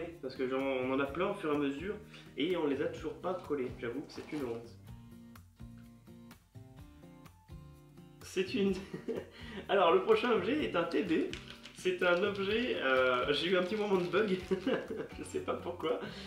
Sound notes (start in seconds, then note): 8.7 laughter